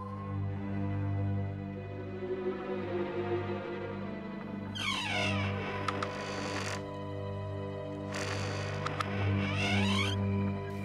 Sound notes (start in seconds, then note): 0.1 suspenseful music; 4.7 door creaks